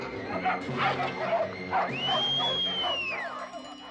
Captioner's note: whistles